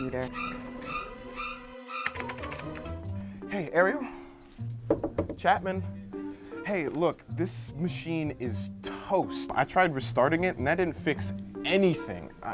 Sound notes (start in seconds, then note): 4.8 knocking